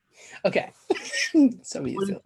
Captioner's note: laughs